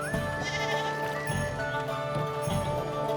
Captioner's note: sheep bleating